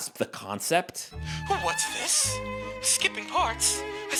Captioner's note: pearl-clutching "proper" accent